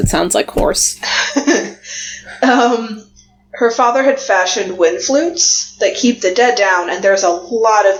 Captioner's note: laughs